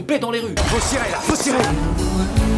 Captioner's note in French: tirs